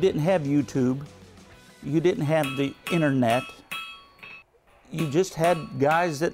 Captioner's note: metal banging